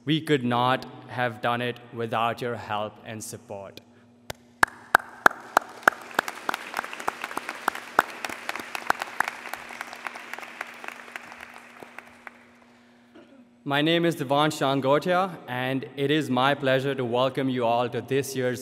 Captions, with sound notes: We could not have done it without your help and support. [applause] My name is Devansh Chandgothia, and it is my pleasure to welcome you all to this year's